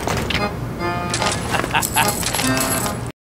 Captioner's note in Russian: злобный смех медика